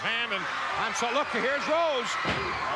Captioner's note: audience cheering